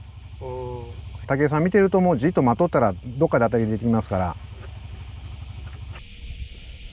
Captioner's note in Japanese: ああ